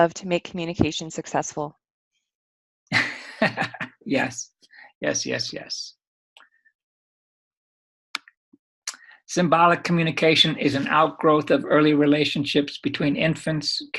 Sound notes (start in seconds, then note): 2.9 chuckling